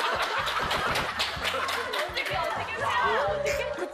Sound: laughing

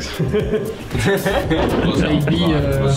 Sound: laugh

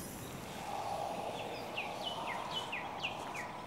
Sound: whistling wind

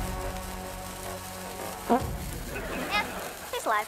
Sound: farts

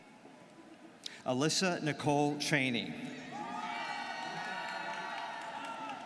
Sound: students cheering

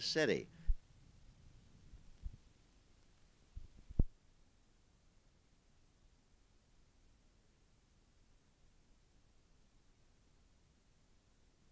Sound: silent

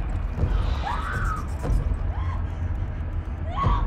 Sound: screaming

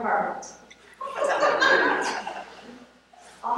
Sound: laughter

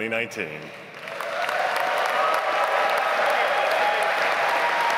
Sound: audience applauds

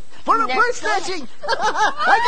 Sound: evil Laughs

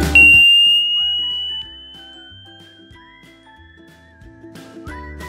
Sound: pure tone test sound; upbeat music

